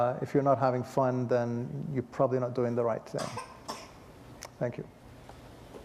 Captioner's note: cough